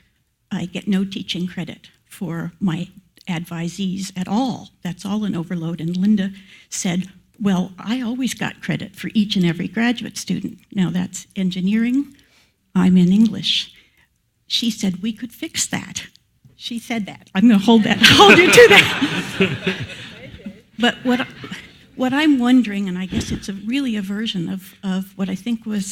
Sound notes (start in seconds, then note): 20.2 laugh